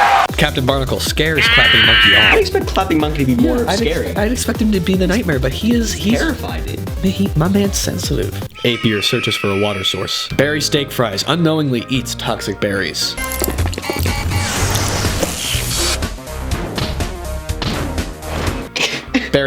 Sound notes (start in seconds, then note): 0.0 audience cheering and clapping; 8.5 eagle Screech; 15.2 zapping and impact